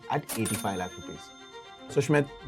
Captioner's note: chime